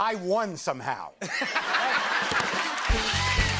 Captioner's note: laughter and applause